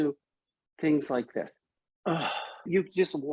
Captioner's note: deep exhale